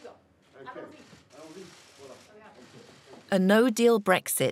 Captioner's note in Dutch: spreekt in vreemde taal